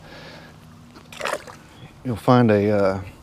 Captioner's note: water splash